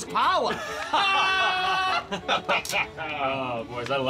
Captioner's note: men laughing